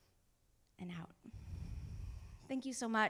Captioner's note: exhales; inhales